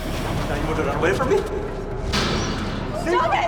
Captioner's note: Ravi Thuds